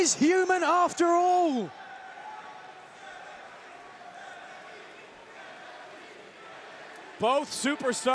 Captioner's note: crowd cheering